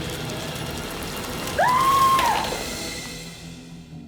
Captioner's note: screaming